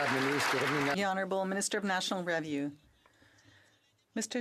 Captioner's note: some Applause